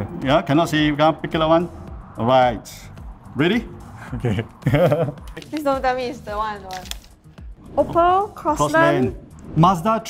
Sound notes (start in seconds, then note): 4.0 laughs